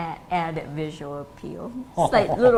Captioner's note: laughs